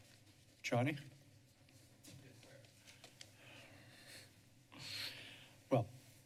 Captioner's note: short silence